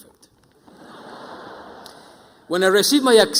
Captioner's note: audience laughing